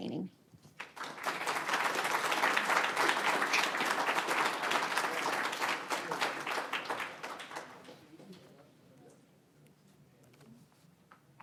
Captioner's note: applause